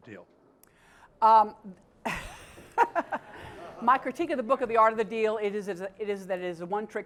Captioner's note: laugh